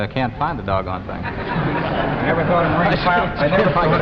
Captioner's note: audience laughing